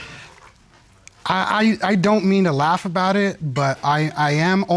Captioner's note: stutters